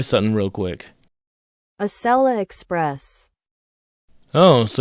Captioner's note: Google Translate voice